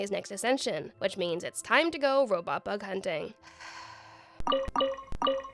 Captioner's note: sighs